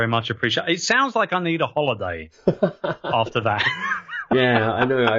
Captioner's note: laughs